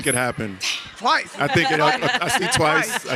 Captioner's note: audience laughs